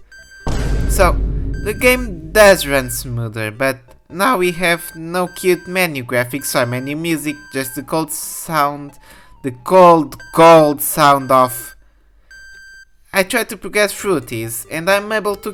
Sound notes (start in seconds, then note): 9.5 Rep Com 066 chirp